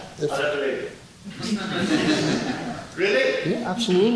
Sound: audience laughs

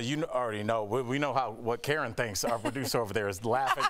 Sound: laughter

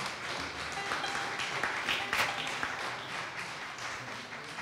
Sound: audience applause

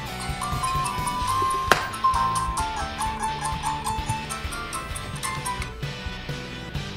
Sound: game music; earbuds hitting wall

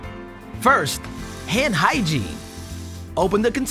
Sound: water burbling

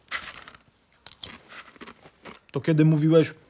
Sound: sound of chips crunching

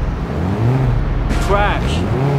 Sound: crash

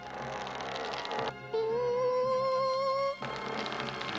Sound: squealing

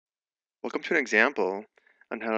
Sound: voiceover

